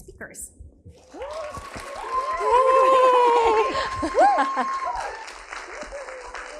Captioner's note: audience applauding and cheering